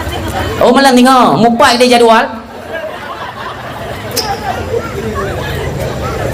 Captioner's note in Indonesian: tertawa